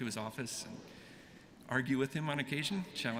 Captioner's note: none